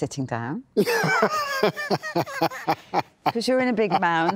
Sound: laughs

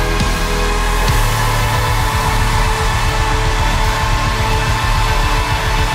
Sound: cheering and applause

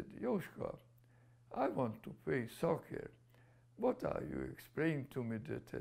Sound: non-english

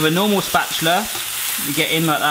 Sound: bacon sizzling

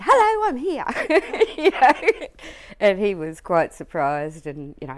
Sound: laughs

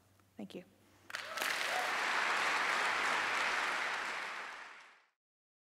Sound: applause

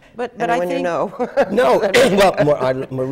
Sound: laughter

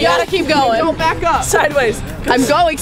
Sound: voiceover

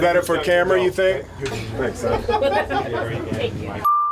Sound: chatter

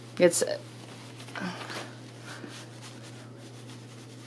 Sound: rustling noises

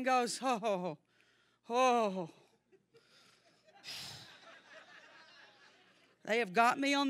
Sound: congregation laughing

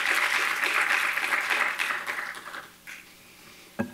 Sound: applause

